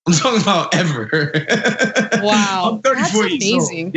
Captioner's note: laugh